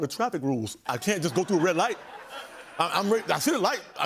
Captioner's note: laughter